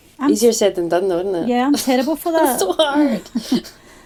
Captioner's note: laughs